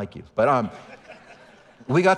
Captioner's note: audience laughing